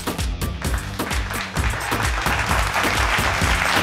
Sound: applause

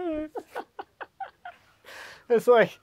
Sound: both laughing

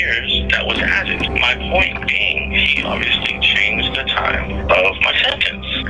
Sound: distorted bell chimes

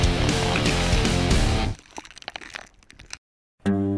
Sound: ice crackling; gentle guitar music

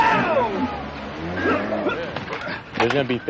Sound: man gasps

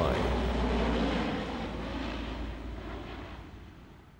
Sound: plane engine roaring

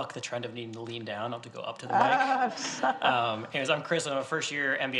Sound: laughs

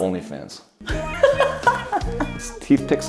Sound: laughing

